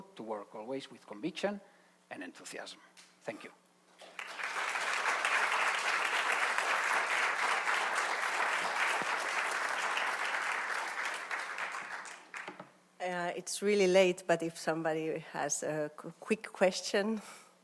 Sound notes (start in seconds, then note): 4.0 audience applauds